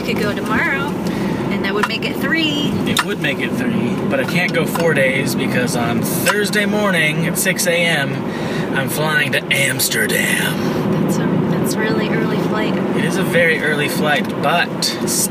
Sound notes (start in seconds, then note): 8.3 dramatically low voice